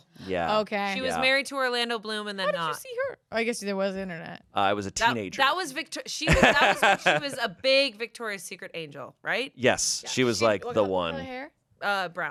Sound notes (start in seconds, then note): 6.2 laughs